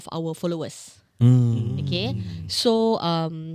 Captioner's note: hum of Approval